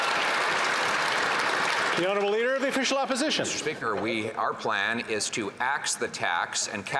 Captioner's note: some Applause